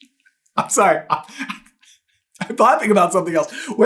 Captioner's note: cracking up hard; still cracking up